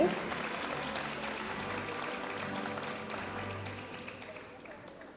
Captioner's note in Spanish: aplausos de la audiencia